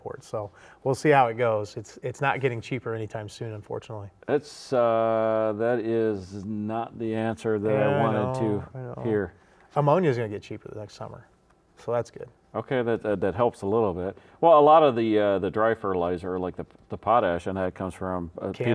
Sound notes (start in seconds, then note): none